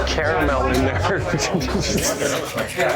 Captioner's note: laughter